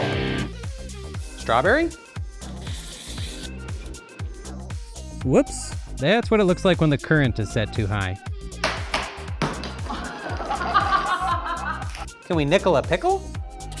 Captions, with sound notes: That's METAL. Strawberry. Whoops. That's what it looks like when the current is set too high. [gavel pounding] [laughing] Can we nickel a pickle?